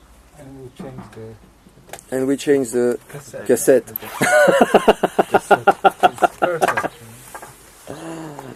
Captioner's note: laughs